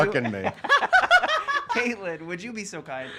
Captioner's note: laughter